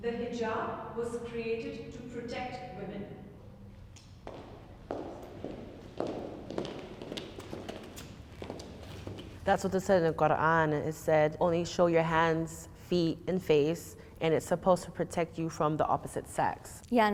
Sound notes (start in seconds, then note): 3.7 footsteps approaching